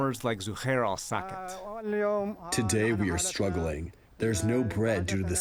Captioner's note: through translator